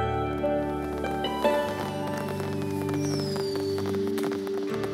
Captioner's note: Swooshing